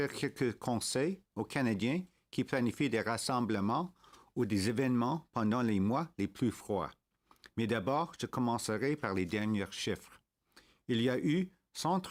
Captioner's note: speaking French